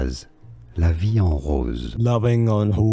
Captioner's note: french